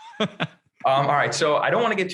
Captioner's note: laughing